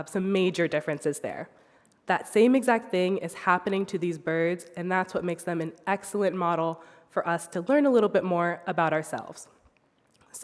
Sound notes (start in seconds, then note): none